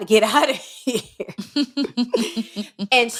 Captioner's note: laughter